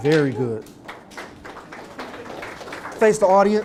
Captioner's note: applause